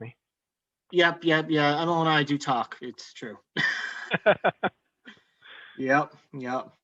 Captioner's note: chuckles